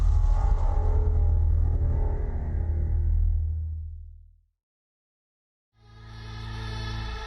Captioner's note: transition sound